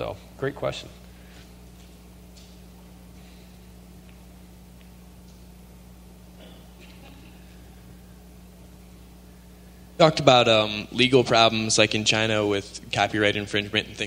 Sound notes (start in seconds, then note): 2.7 silence